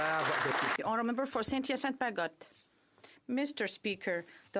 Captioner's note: some Applause